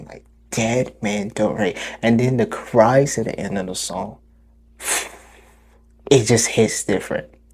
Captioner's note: exhale